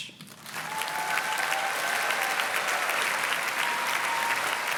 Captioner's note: audience cheers and claps